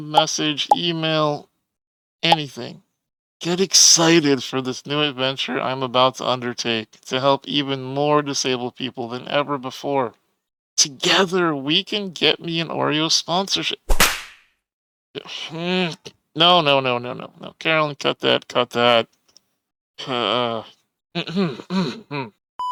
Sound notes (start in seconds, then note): 13.9 slap sound; 21.2 clears throat